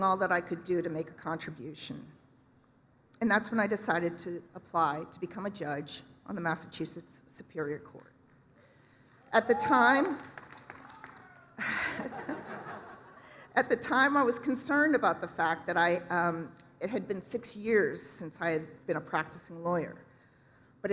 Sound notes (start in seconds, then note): 9.2 cheer; 10.8 applause, cheering